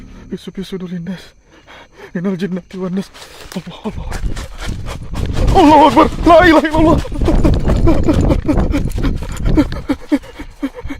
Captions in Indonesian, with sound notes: Allah. Allahu Akbar. Allahu Akbar. Lailahaillallah. [tertawa]